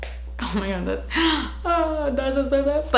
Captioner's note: she gasps